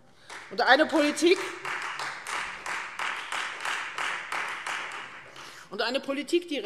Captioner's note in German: Beifall Freie Demokraten